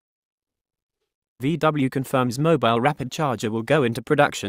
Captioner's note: Siri voice